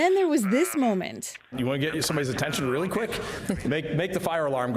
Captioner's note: laughter